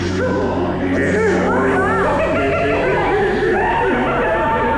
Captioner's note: sharks laughing